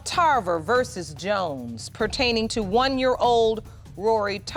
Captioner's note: none